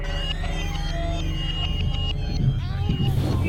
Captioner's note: helicopter whirring; screeching